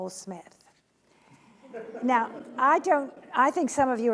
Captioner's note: laughing